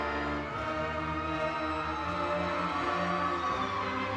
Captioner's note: audience cheering